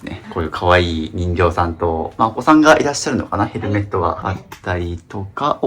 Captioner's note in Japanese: 咳払い